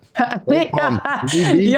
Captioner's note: laughing